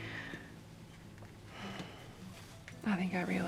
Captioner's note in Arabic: زفير